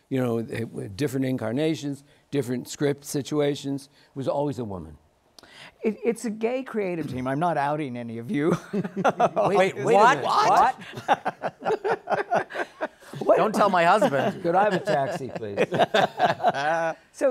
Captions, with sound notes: we did readings, you know, different incarnations. Different script situations. It was always a woman. >> It's a gay creative team. I'm not outing any of you. [laughs] >> Wait a minute! >> What? [ Laughter ] >> Don't tell my husband! >> Could I have a taxi, please?